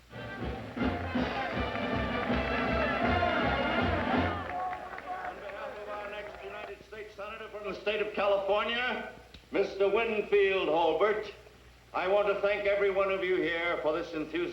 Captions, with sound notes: [ CHEERS AND APPLAUSE ] >> ON BEHALF OF OUR NEXT UNITED STATES SENATOR FROM THE STATE OF CALIFORNIA, MR. WINFIELD HOLBERT, I WANT TO THANK EVERY ONE OF YOU HERE FOR